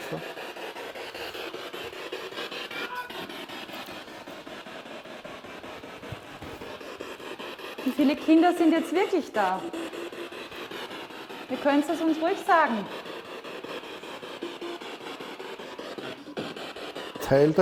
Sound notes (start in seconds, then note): 0.1 noise of the spiritbox in the background; 9.8 child's voice; 14.1 child's voice